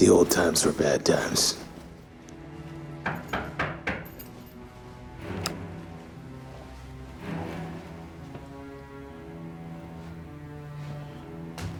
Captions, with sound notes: - THE OLD TIMES WERE BAD TIMES. [knocking at door]